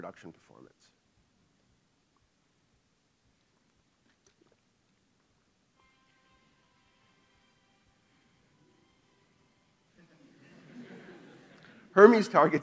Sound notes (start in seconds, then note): 5.8 ringtone; 10.0 laughing